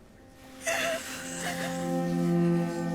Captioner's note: sobbing